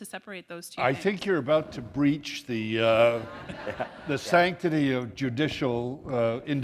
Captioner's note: laughter